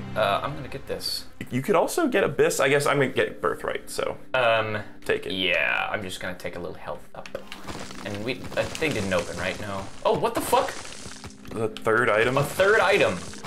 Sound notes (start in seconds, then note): none